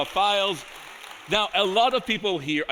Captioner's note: audience applauding